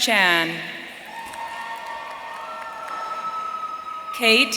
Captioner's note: audience cheering